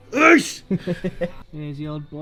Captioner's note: laughter